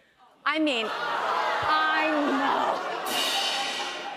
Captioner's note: audience groans; rimshot